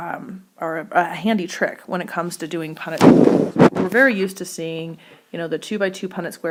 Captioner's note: mic disturbance